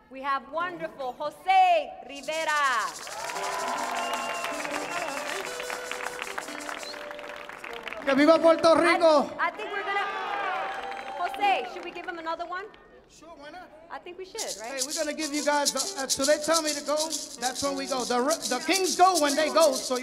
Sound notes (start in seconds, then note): 3.0 audience cheers; 8.2 man speaking in Spanish